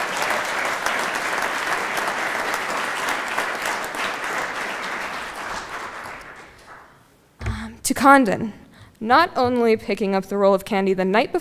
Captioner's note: applause